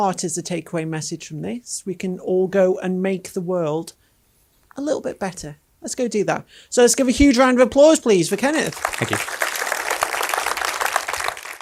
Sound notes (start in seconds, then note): 8.4 audience applauding